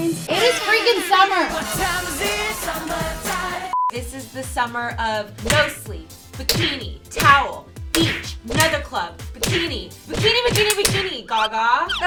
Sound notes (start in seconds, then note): 3.7 beep